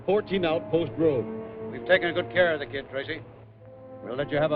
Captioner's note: over wire